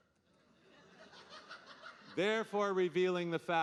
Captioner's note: audience laughing